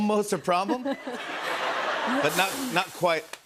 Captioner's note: laughter